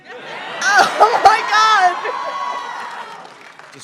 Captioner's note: applause, cheering